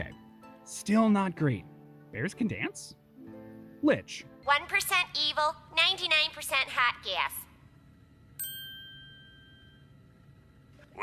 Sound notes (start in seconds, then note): 8.4 ding